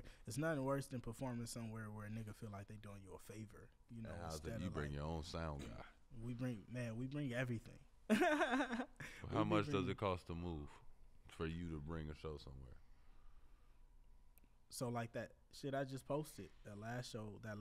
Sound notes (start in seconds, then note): 8.1 laughs